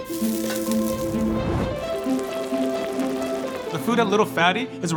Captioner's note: flame whooshing; pot bubbling; pan sizzling; lively music